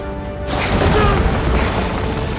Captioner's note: yells